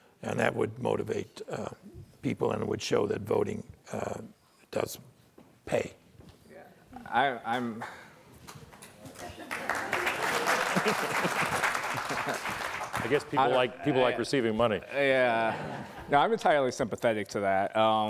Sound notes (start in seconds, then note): 9.1 loud applause